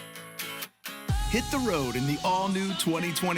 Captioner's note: upbeat music; voiceover